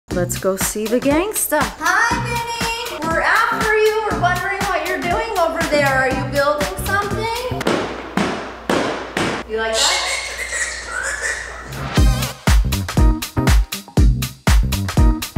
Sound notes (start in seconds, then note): 7.7 slapping cardboard box; 9.7 bird squawking; 10.9 upbeat intro music